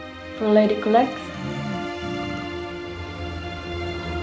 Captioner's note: snores